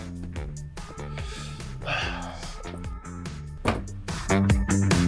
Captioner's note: David sighs; upbeat music continues